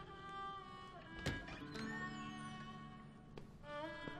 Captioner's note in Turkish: Kapı gıcırtısı sesi